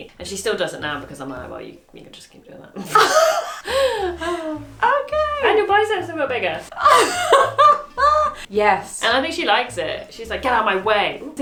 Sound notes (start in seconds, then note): 2.8 both laughing; 6.7 laughs